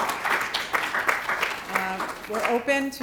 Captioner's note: applause